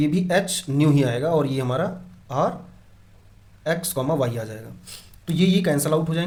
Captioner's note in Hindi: नाक से की जाने वाली आवाज़